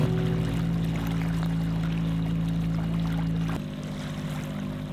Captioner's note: water babbling